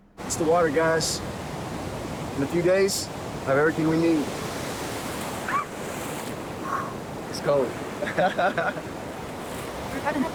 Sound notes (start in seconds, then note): 5.4 April screeches in the distance; 6.6 exhales loudly; 8.0 Miguel laughs